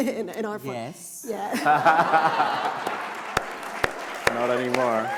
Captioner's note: laughter